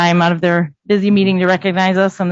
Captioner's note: none